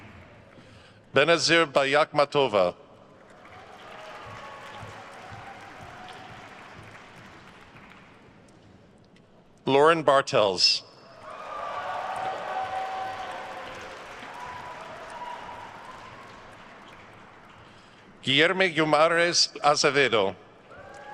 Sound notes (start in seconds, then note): 3.2 attendees cheering and applauding; 11.1 attendees cheering and applauding; 20.6 attendees cheering and applauding